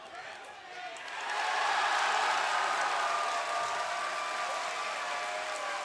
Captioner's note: crowd cheering and clapping